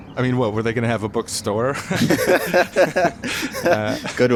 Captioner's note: laughter